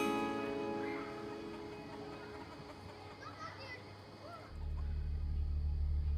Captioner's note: chickens clucking; children shrieking and chattering; soft suspenseful music